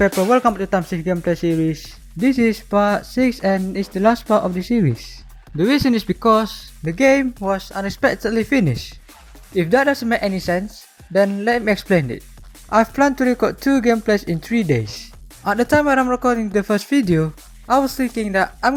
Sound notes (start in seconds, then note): none